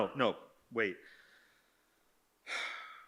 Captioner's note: sighs